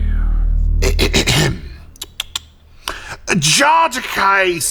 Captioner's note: Drechen clears throat